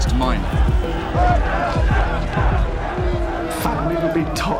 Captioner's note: chanting